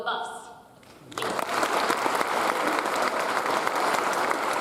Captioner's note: audience applauds